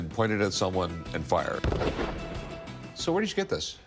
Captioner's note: gunshot